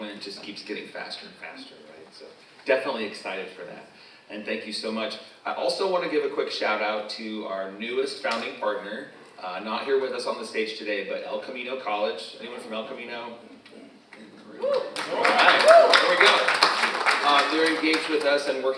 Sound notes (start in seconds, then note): 14.6 audience member cheers; 17.0 all applauding